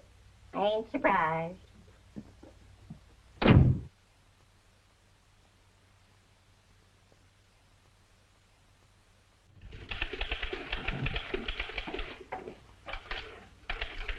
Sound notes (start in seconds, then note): 3.4 door thuds; 9.5 typewriters clacking